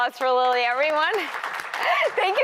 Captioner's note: applause